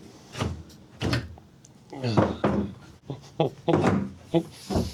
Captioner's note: laughing